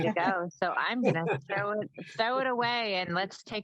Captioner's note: laughs